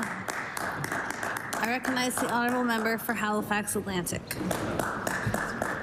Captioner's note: applause